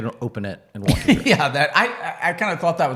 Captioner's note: laughs